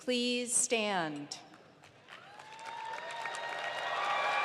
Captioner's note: applause